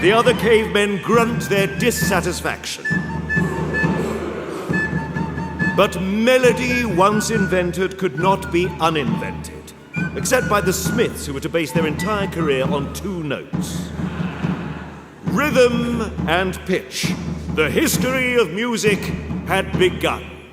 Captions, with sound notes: The other cavemen grunt their dissatisfaction. [AUDIENCE GRUNTS] But melody, once invented could not be un-invented – except by The Smiths, who were to base their entire career on two notes. RHYTHM and PITCH – the history of music had begun!